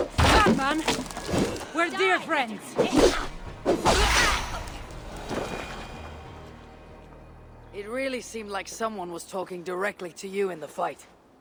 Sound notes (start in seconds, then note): none